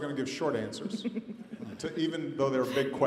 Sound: snickers and laughter

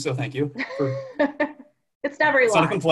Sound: laughs

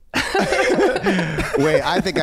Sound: everyone laughing

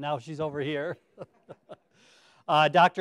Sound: chuckles

